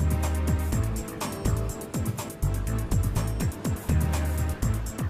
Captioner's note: plane flying